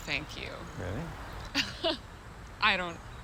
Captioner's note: Laura laughs